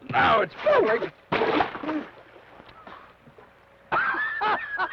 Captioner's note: water splashes; laughs